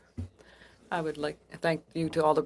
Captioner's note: speaking French